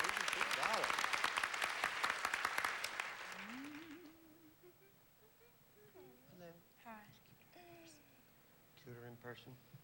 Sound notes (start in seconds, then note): 3.4 humming